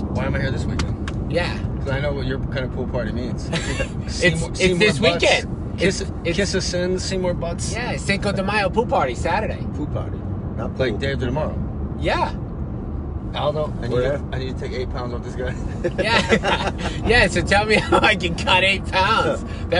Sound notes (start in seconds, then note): 15.8 laughing